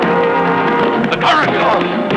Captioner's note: crying out; whacking